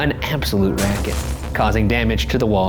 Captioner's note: phonograph crashes